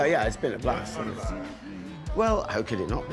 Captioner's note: off camera voice